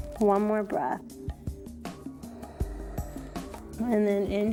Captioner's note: breathes